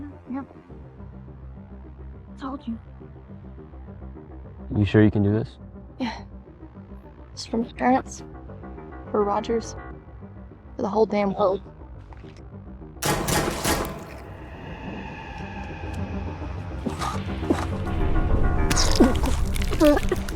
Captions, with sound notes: Yep. Told you. You sure you can do this? Yeah it's for my parents, for Rogers, for the whole damn world. [gunshots] [supernatural riser] Ugh... [bones breaking]